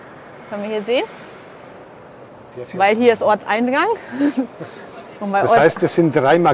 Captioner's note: laughter